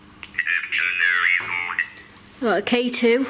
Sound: Ovilus buzzes

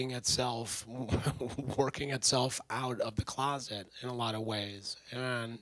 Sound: laughs

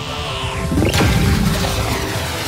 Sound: cannon fires

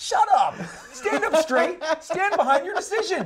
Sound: laughs

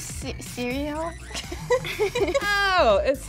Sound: laughing

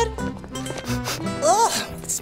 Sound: sniffing

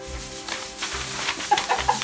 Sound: pom Poms shaking; laughs

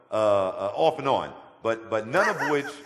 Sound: laughter

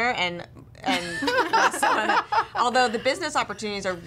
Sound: all laughing

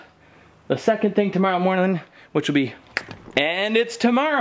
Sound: snaps

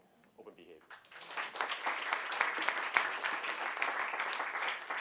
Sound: applause

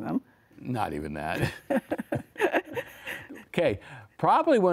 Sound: laughs

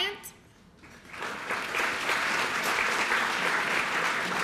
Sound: applause

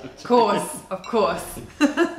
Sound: laughter

